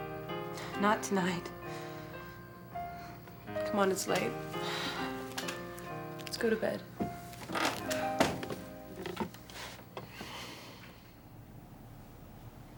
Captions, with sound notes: - Not tonight. C'mon, it's late. Let's go to bed. (footsteps on the stairs)